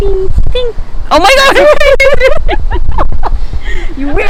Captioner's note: devilish laughter